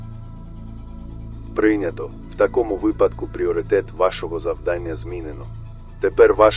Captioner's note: radio